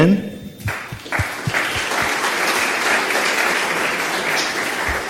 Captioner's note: audience clapping